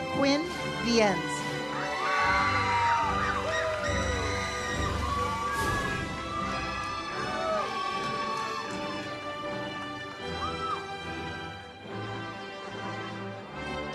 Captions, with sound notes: Quinn Viens. (audience cheers) (uplifting music)